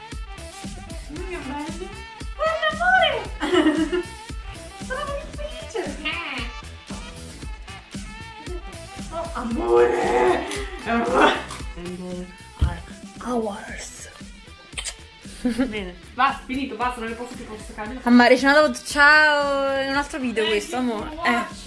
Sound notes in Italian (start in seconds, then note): 9.3 pianti per R+E